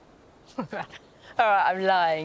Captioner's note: laughs